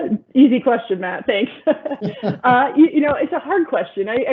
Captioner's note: laughs